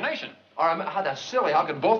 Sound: stammers

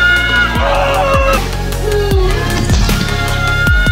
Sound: yelling

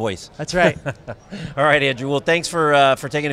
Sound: laughing

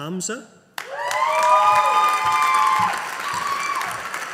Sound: audience applauding

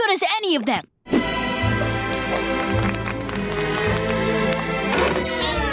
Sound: music playing, applauding

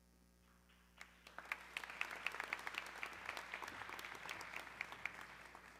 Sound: audience clapping

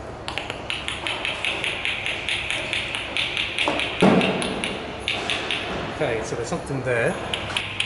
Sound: clicks; clicks

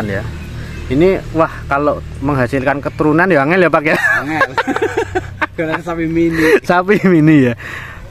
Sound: laughs

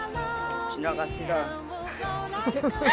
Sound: laughing

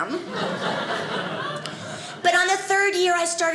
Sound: audience laughing

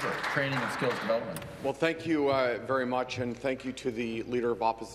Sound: applause

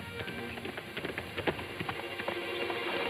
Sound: hooves thudding; dramatic music

